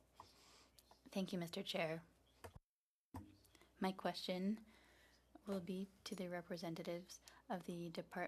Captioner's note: speaking French